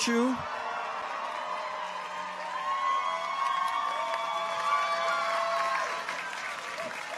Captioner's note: people cheer; audience applauds